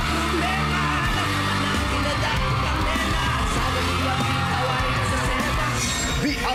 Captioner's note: crowd screaming